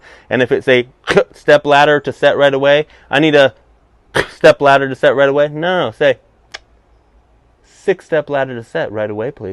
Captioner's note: click